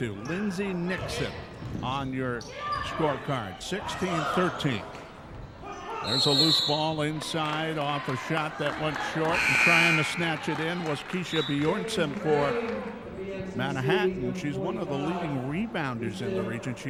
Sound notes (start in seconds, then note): 6.0 referee whistling; 9.3 buzzer sounding